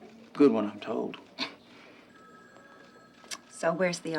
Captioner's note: phone ringing